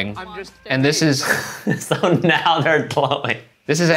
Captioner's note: laughing